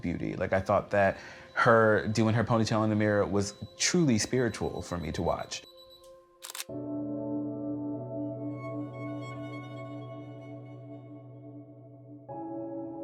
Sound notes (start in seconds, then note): 6.4 camera clicks; 9.1 gentle strings music